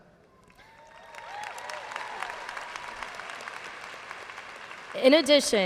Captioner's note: audience cheers and applauds